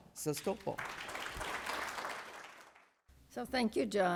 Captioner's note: audience applauding